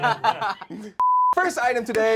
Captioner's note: laughing; loud beeping